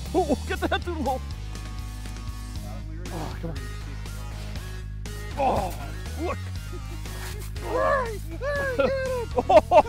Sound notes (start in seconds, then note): 5.3 laughing and cheering